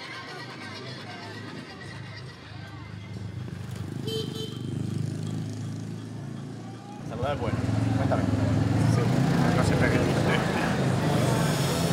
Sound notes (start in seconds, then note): 3.7 horn; 3.7 traffic